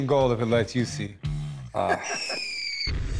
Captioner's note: laughs